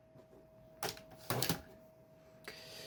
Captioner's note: laptop dvd drive ejecting